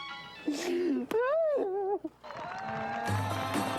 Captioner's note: lady whimpering; upbeat instrumental music